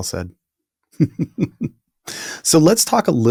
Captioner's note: chuckling